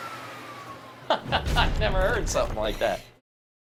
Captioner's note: furnace noise slows; logo slams